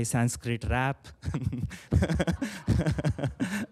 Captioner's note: chuckles